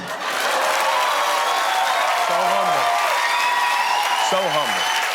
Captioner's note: cheers and applause